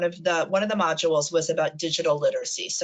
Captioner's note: none